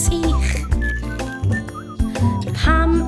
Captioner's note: whistling